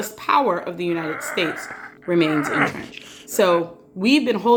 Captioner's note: straining sounds